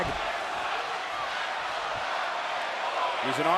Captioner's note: audience chanting